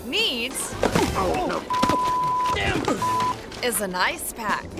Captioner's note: thuds; beep